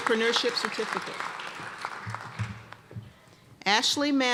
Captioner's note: applause